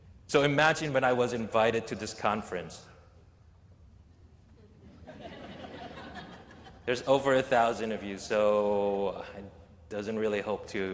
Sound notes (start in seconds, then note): 4.6 laughter